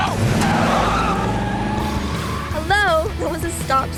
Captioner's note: tires squealing